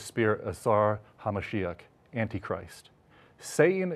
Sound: speaking in Hebrew

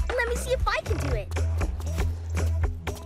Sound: none

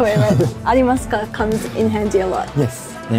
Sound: speaking in Japanese

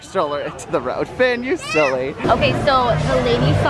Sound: exclaims

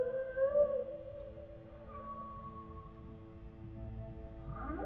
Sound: whales singing

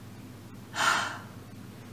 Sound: sighs

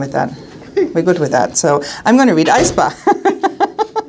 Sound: laughing

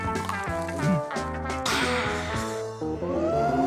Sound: sighs

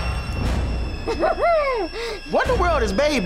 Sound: laughing

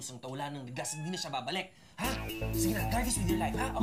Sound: cat meows

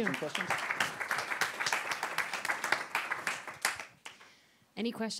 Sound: applause

